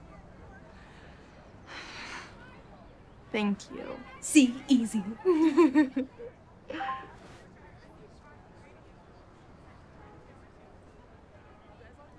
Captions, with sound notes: - Thank you. - See? Easy. - ( chuckles ) - ( phone chimes )